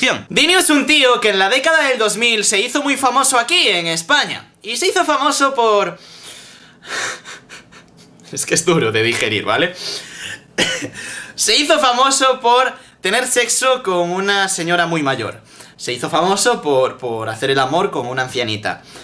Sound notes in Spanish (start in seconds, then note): 6.7 Risas y suspiro; 10.2 Risas y tos; 10.6 Risas